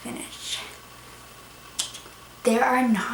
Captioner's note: mouth click